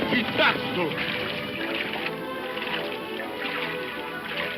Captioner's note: speaks in foreign language; water splashing